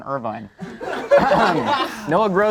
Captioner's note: group laughs